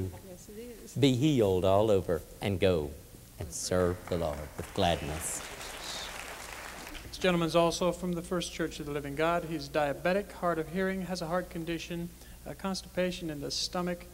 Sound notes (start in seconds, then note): 5.3 applause